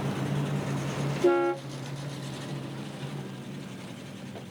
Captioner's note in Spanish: Ronco do motor do carro; Buzina